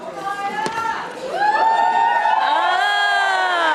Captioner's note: audience cheering